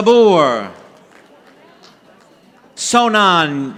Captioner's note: audience applauding